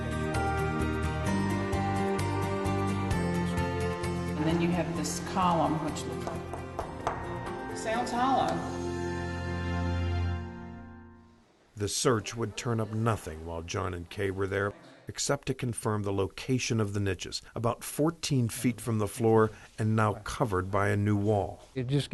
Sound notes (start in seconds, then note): 6.2 tapping